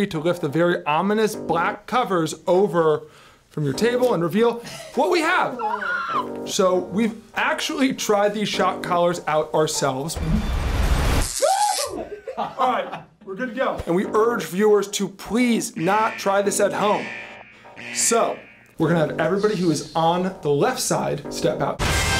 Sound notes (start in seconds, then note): 10.6 electricty crackles; 11.4 screams